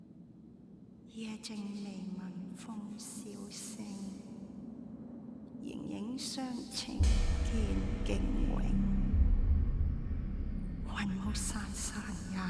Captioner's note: woman speaking in Chinese dialect